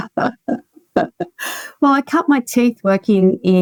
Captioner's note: both laughing